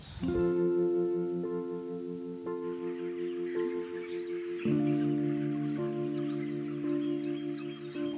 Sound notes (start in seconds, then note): 0.1 light guitar music; 2.7 birds chirping